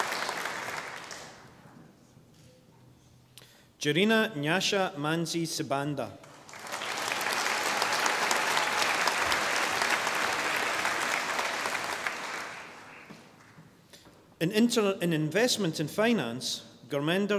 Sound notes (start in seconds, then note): 6.2 audience applauding